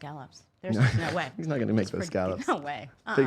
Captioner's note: laughing